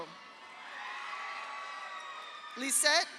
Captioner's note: audience cheers; audience applauds